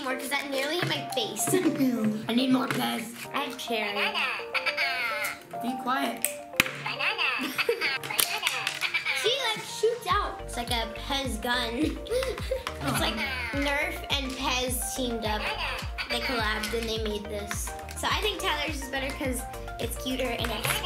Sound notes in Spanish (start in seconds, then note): 5.2 risas; 6.9 Risas; 12.5 risas; 16.2 risas